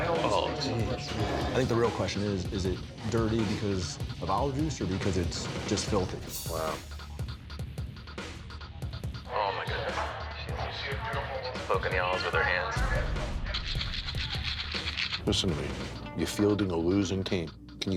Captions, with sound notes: Oh geez. I think the real question is, is it dirty because of olive juice or because it's just filthy? - Wow. - Oh my goodness. She's poking the olives with her hands. (ice rattling) - Listen to me, you fielding a losing team.